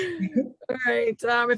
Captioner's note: reciting the pledge of allegiance